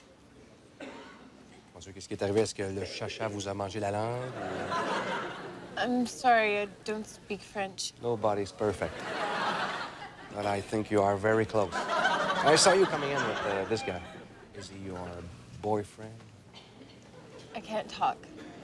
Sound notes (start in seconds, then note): 8.8 laughter